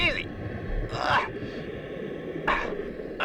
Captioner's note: grunts